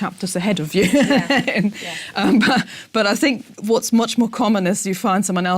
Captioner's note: laugh